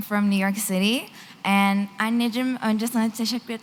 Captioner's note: non-english